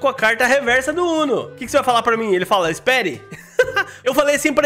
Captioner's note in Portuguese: risos